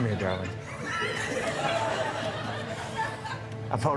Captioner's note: laughter